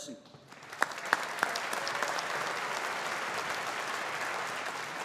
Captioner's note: audience applauding